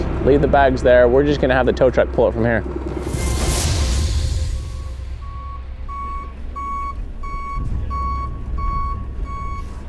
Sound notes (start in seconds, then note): 3.9 suspenseful music fades; 4.6 tow truck beeping